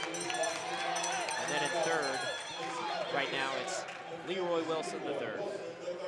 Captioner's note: bell